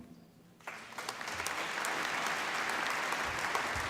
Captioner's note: applause